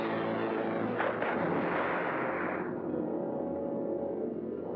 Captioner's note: dramatic music; loud splash; ominous music